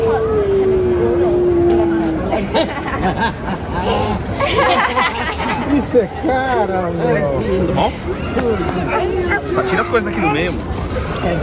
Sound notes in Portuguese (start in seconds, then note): 1.9 risos